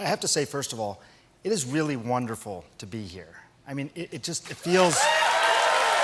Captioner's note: cheers and applause